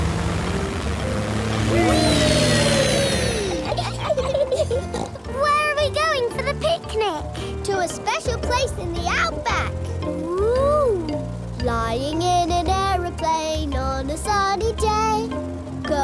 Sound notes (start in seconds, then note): 3.4 laughs and snorts